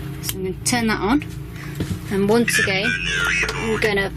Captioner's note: Ovilus powering on